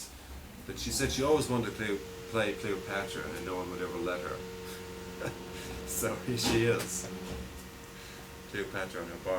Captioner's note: laughter